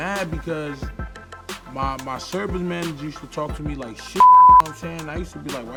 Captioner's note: beep